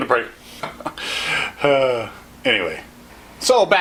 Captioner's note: laughs to self